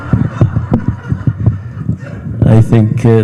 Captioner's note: audience laughing